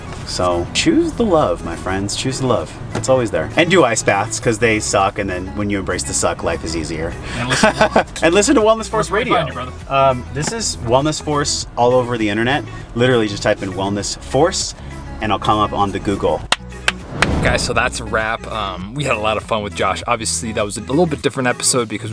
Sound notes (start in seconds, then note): 7.3 laughs; 16.6 claps